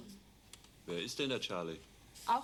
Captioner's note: speaking german